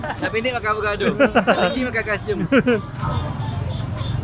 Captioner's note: laugh